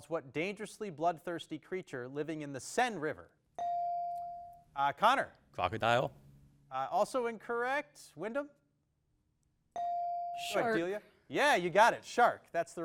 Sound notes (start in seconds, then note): 3.6 bell dings; 9.8 bell dings